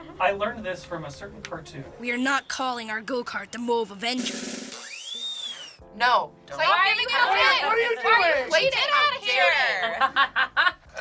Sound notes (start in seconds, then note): 4.1 drum roll; 7.0 group cross yelling